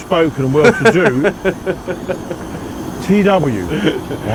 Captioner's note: laughs